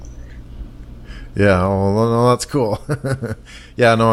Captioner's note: laughs